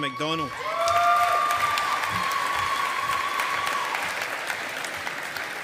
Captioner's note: audience applauding